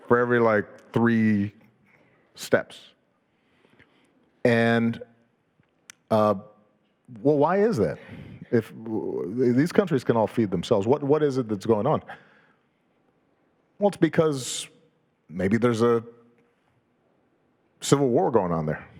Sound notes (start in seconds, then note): none